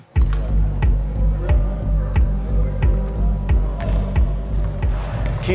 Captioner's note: players chattering; pensive dramatic music